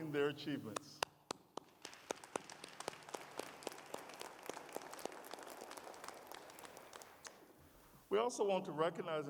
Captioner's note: applause